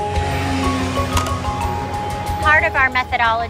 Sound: motorcycle revving

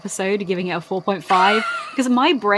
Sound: laughs

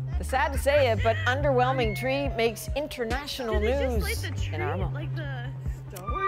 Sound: laughter

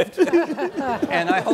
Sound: chuckling

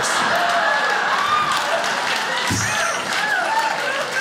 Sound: crowd laughs

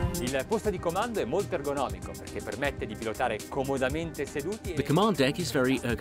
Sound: speaking in foreign language

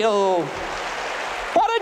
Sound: applause

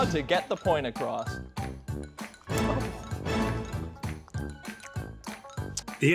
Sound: truly the most rancid wet mouth sounds

